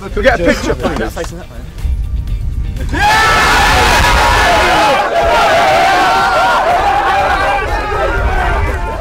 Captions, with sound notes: Can we get a picture please? (Cheering)